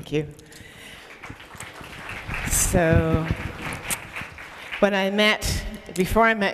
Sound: applause

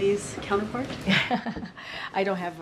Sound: laughs

